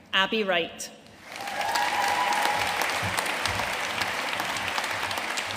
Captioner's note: audience cheering and applauding